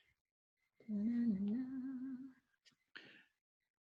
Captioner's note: humming